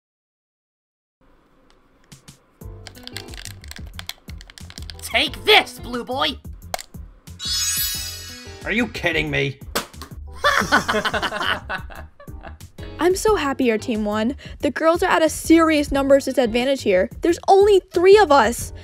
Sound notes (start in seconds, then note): 10.4 laughing